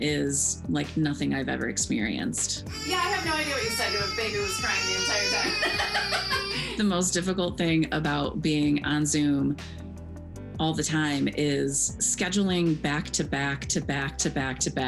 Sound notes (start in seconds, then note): 6.2 laughs